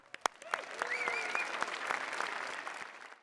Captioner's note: applause